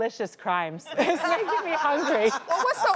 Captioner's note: audience laughing